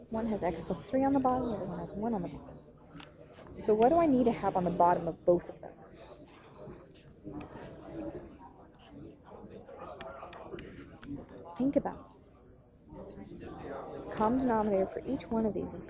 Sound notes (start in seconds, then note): 7.1 chatter; 10.3 tapping